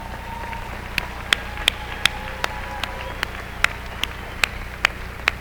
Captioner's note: applause